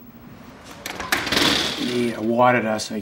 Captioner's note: Fire truck side door opening